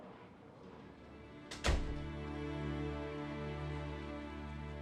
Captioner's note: door closes